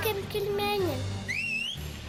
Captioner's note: whistling